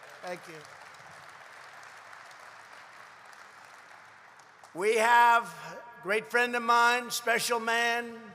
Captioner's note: applause